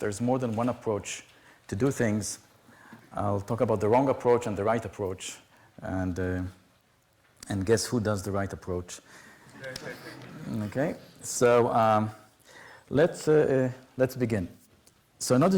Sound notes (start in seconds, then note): 9.4 laughter